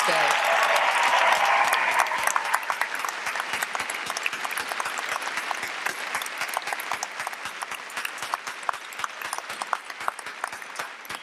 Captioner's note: applause